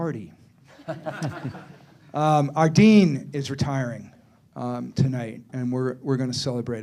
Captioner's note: laughter